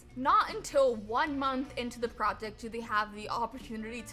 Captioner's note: none